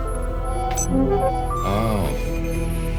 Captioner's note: digital high-pitched sounds